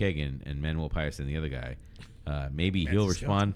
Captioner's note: uh